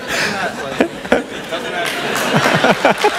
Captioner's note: laughter